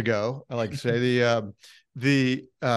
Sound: giggles

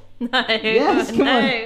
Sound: laughs

